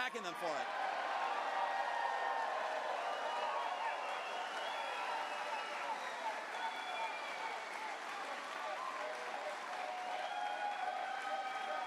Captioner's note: cheers/chants